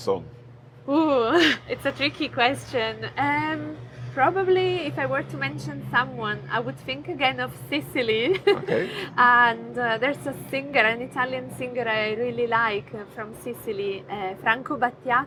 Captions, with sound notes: - Oh, it's a tricky question! Probably if I were to mention someone, I would think again of Sicily. (chuckles) And there's a singer, an Italian singer I really like from Sicily, Franco Battiato.